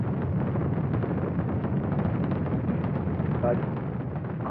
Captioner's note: rocket takeoff